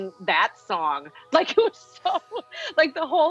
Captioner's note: laughing